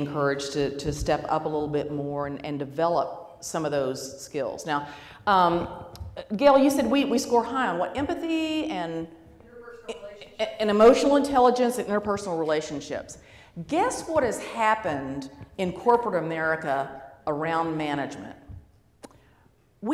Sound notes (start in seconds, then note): 9.5 voiceover